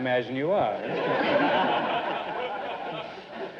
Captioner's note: audience laughter